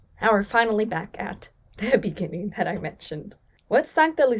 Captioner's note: chuckles